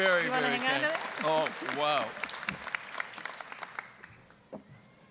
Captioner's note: applause